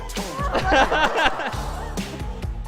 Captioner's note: laughter